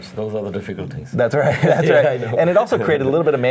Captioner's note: laughing